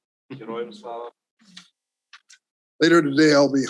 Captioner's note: speaks in foreign language; Andriy speaks in foreign language